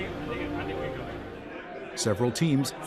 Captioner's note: excited chatter and music